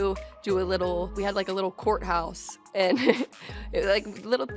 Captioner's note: laughs